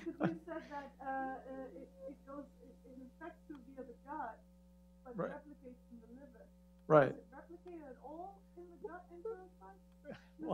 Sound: laughter

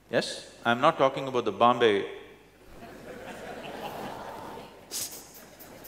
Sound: laughter

